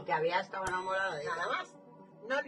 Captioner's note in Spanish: sonido: piiiii